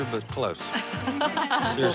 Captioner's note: laughter